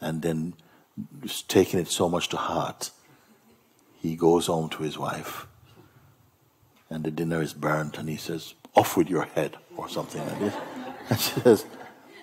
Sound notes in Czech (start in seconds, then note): 10.1 smích